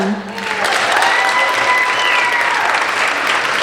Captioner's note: applauding